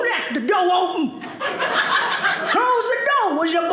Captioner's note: audience laughing